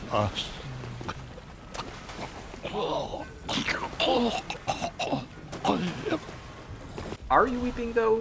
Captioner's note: heavy throaty cough